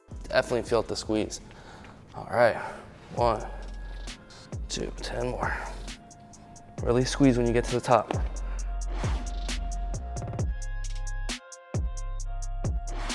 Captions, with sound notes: Definitely feel the squeeze. All right, one, two, 10 more. Or at least squeeze when you get to the top. (air whooshing)